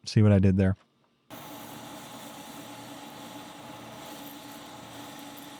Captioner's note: machine whirring